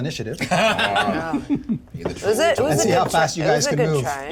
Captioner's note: laughter